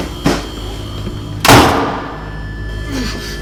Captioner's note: door slams